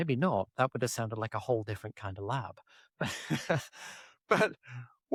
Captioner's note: laughs